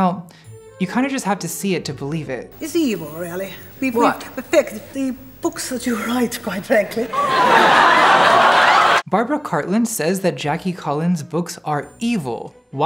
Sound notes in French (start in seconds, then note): 6.6 Rires